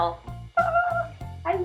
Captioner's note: squeal